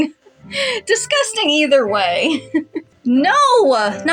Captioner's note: chuckle